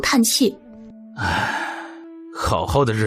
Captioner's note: sigh